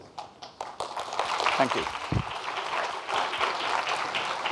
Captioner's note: audience applauding